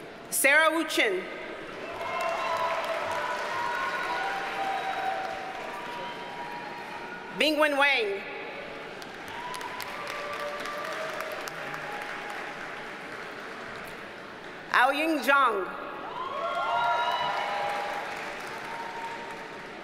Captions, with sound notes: Sara Wuchen. (audience cheers and applauds) Bingwen Wang. (audience cheers and applauds) Aoying Zhang. (audience cheers and applauds)